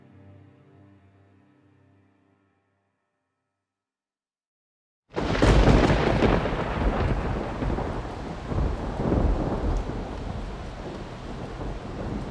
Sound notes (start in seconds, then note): 5.1 thunder crashing